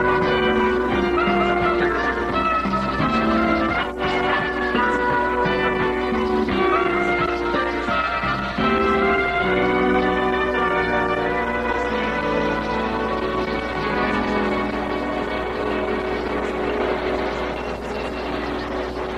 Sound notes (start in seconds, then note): 6.0 horn Honks